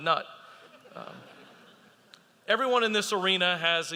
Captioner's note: audience laughing